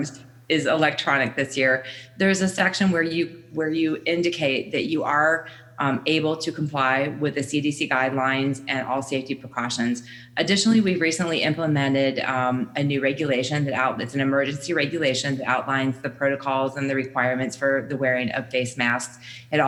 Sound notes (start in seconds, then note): none